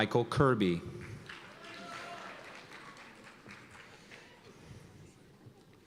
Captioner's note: cheers and applause